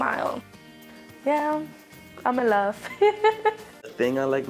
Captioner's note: laughs